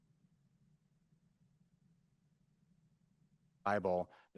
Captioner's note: audio Missing